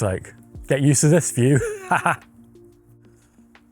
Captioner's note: laugh